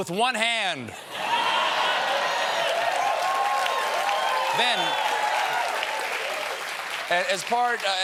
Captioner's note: cheers and applause